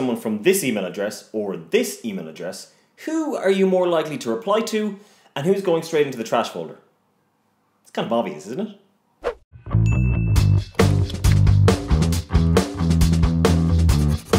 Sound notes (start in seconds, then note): 9.3 swoop; 9.7 upbeat music; 9.7 ding